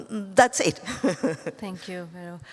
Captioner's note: laughs